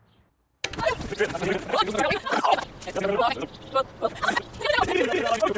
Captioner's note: tape rewinding